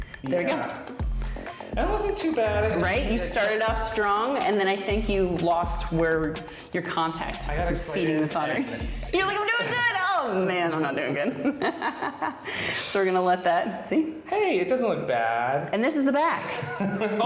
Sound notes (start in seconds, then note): 10.9 chuckles; 16.4 crew person laughs